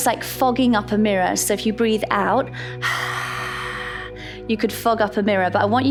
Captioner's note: exhales